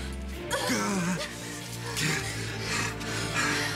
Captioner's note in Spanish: Quejidos